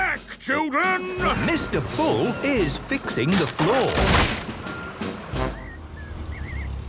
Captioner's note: tractor noise, floorboards cracking